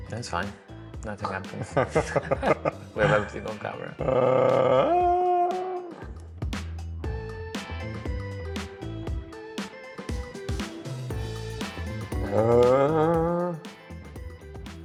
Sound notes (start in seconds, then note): 1.6 both laughing